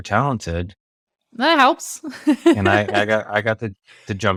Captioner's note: laughs